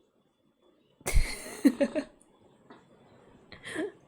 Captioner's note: laughs